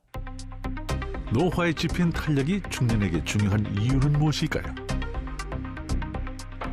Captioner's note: voiceover